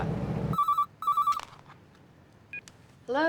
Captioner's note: phone ringing